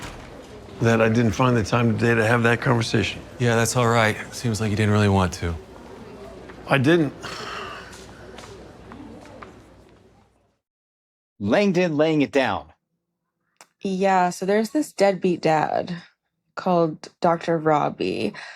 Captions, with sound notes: that I didn't find the time today to have that conversation. Yeah, that's all right. Seems like you didn't really want to. DR. MICHAEL "ROBBY" ROBINAVITCH: I didn't. (SIGHS) Langdon laying it down. Yeah, so there's this deadbeat dad called Dr. Robby.